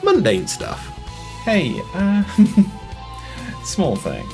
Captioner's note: nervous laughter